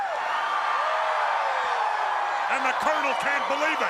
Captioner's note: crowd cheering